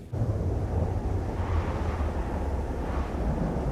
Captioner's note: ominous wind